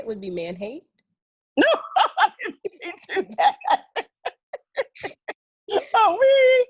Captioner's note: laughing loudly